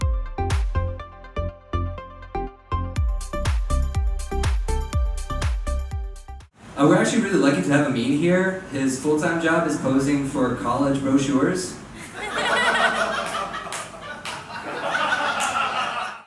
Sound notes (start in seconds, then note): 0.0 upbeat music; 12.0 audience laughs